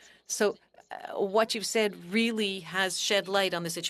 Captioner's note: speaking French